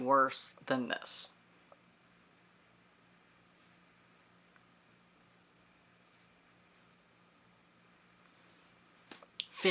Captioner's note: silence